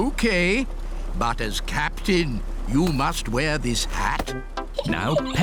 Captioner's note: giggles